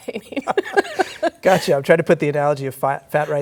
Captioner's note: laughter